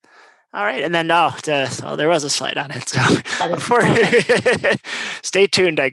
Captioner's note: laugh